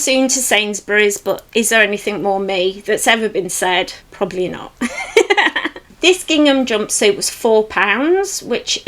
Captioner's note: laughs